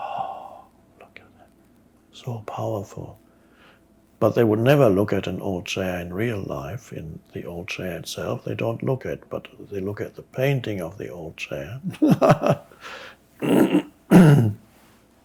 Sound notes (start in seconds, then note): 11.8 laughs